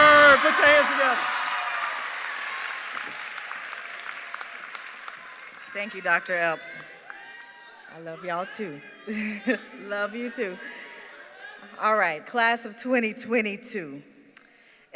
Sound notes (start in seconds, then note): 9.8 cheers and applause